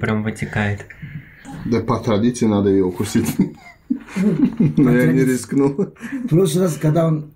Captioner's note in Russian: смеётся